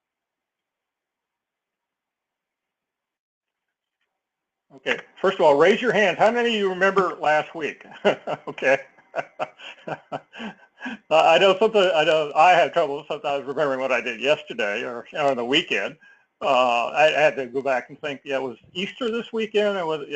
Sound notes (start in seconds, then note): 9.9 laugh